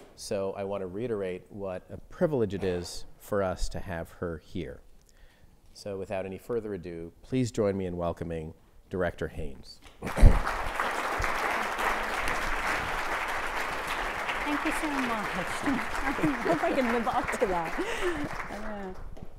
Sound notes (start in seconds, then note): 10.0 audience applauding